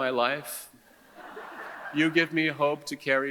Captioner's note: audience chuckles